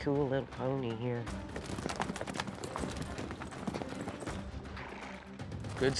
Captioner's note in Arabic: ضربات حوافر